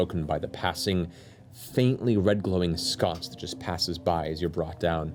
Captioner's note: none